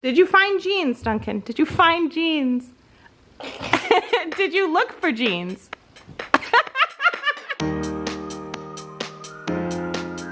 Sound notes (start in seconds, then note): 3.5 female laughing; 6.2 female laughing; 7.6 upbeat music